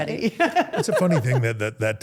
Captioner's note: Steph laughs